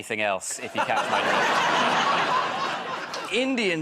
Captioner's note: laughter